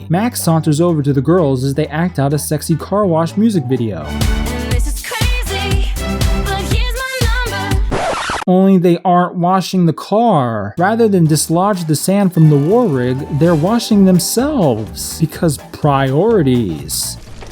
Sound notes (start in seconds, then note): 7.7 record scratch